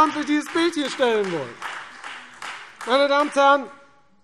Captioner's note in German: Beifall Freie Demokraten, vereinzelt BÜNDNIS 90/DIE GRÜNEN und SPD